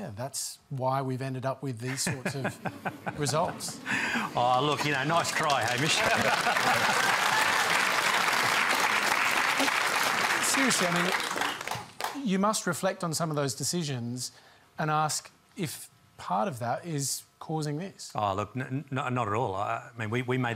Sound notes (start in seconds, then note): 5.7 laughs; 6.9 applause